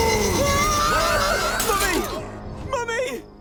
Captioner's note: screaming